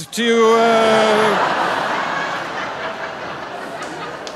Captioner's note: audience laughing